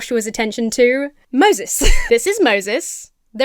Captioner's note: Emma chuckles